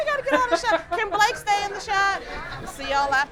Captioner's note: laughs